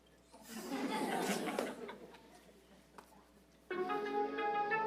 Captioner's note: audience laughing; energetic music